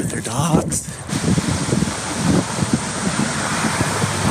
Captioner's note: running water